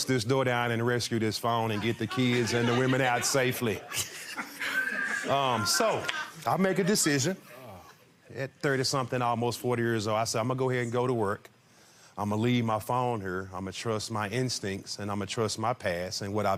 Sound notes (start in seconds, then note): 4.5 laughs